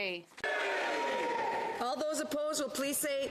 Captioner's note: speaking French